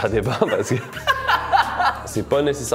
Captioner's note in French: rire